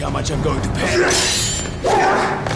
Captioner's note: grunting